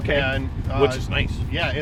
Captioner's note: voiceover